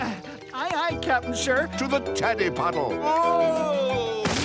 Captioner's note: sighs